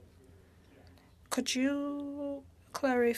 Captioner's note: speaking French